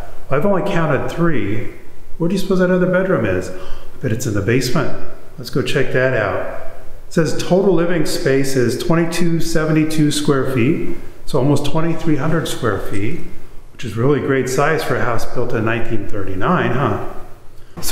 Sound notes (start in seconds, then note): 3.6 gasps